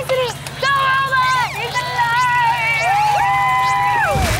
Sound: cheering

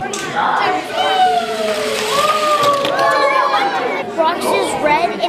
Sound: cheering

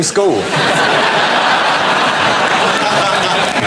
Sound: laughter and applause

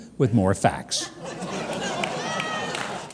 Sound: audience applause

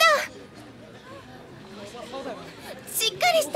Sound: crowd voices : « What happened ? » « What's going on ? »

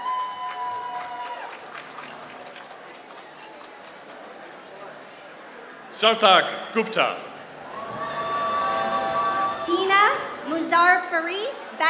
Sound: applause

